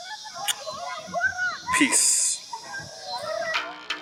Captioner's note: kissing sound